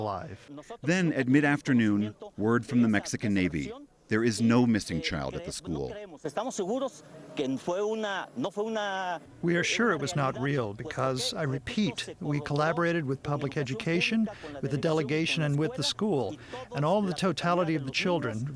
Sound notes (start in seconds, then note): 7.7 through translator